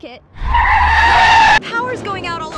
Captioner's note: tires screeching